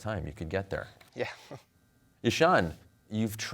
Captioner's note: chuckles